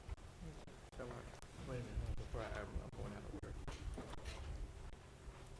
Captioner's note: board chatting quietly